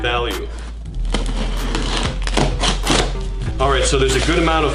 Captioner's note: box tearing